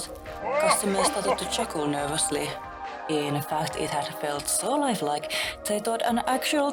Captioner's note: CD-i King laugh